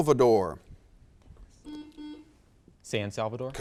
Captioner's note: buzzer beeps